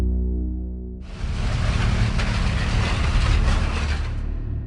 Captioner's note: sound of the earthquake